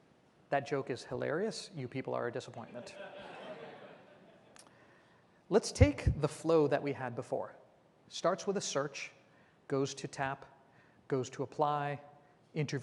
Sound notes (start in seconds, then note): 4.3 laughter